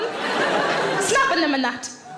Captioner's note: audience laughs